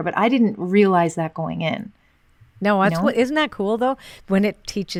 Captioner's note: none